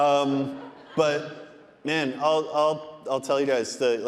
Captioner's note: audience laughing